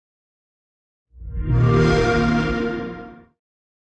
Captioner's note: xbox sound